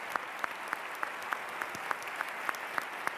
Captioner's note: applause